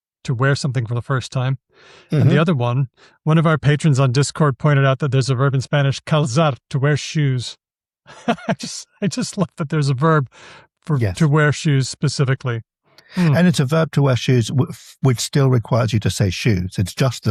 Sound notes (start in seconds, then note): 8.1 laughs